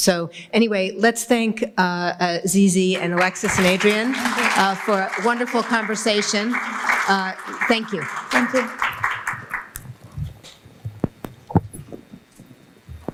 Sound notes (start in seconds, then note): 7.4 applause